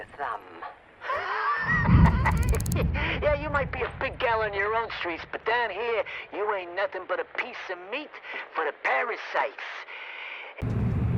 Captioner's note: laughs